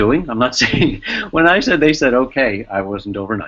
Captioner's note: chuckling